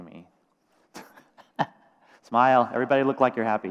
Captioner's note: laughs